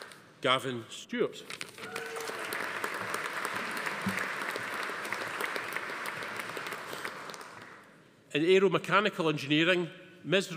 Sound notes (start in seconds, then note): 1.8 attendee cheering; 1.8 audience applauding